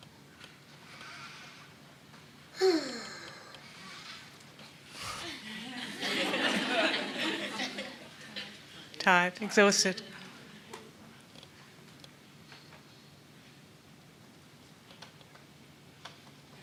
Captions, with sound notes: (Nao sighs) (Nao snores lightly) (everyone laughs) - Tired. - Tired, exhausted.